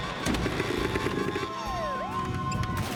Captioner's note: engine Revs; siren Wailing